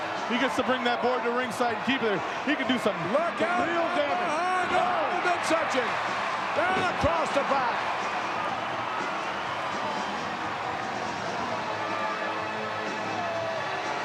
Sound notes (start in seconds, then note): 8.1 audience cheering